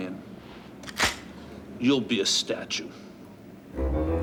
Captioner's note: gun clicks